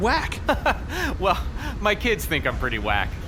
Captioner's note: genial laughter